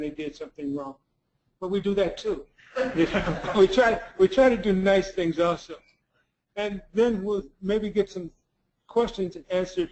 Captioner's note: laugh